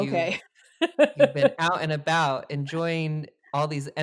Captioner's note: laughs